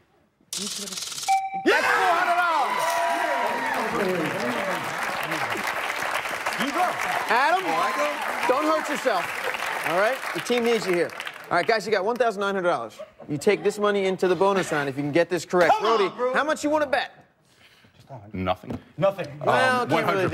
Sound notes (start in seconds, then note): 1.3 chime; 7.5 cheers and applause